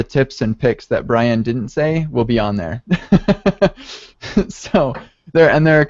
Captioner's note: laughs